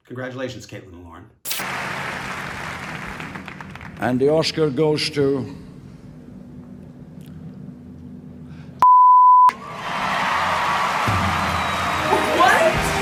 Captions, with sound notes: Congratulations Caitlin and Lauren - And the Oscar goes to (beep) (audience applauding) - What?